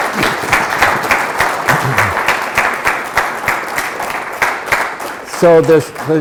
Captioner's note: applause continues